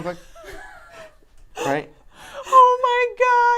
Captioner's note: laughs